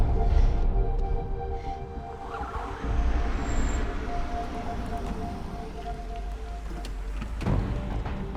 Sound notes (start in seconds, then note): 1.8 car approaching